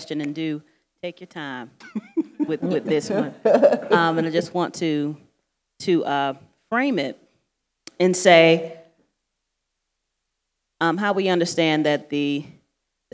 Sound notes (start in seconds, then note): 1.8 panelists laughing